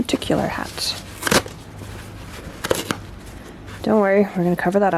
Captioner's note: violent ripping